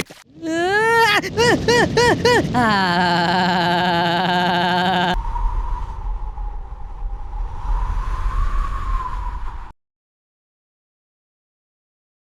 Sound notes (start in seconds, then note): 0.4 screaming; 2.4 voice vibrating; 5.1 wind blowing